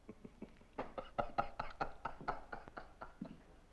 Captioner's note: laughing